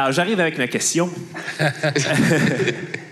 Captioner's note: laughs